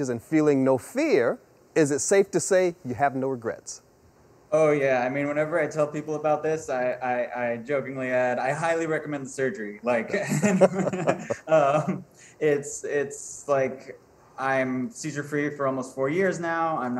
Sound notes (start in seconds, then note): 10.1 laughing